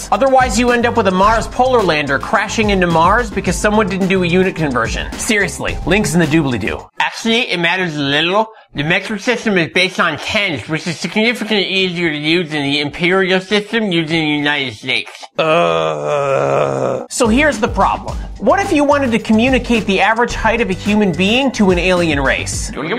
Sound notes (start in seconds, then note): 15.3 groaning Noises